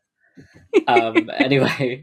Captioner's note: laughs